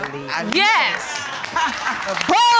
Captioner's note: audience applauding